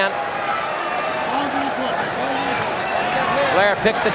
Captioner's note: crowd cheering